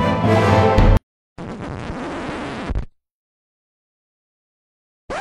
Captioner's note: record scratch